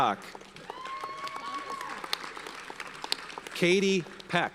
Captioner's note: audience cheers and applauds